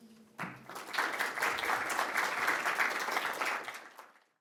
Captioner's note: students applauding